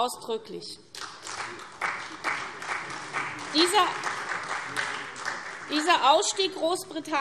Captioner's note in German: Beifall SPD, CDU und BÜNDNIS 90/DIE GRÜNEN